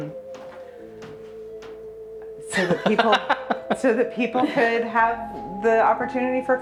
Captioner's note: laughs